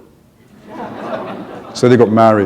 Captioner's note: chuckle